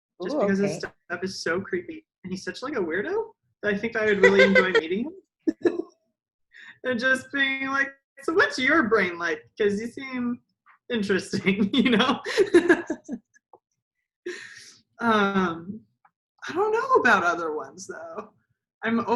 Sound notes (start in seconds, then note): 11.3 laughs